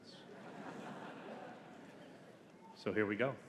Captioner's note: audience laughing